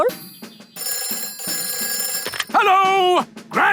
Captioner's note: telephone ringing